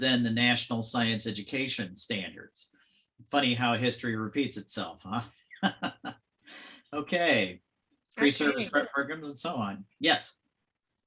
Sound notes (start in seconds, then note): 5.5 chuckles